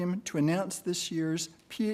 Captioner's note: none